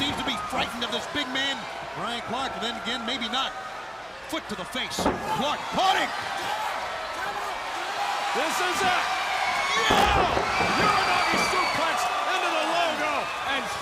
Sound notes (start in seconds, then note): 6.5 crowd chatter